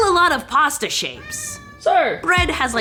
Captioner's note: cat meowing